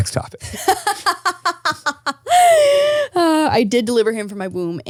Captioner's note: laughing